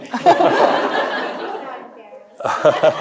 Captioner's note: audience laughing; chuckles; audience laughing; chuckles